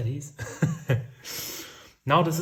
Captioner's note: baker laughs